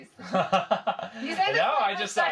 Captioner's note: chuckling